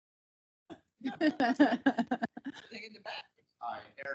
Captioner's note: council laughing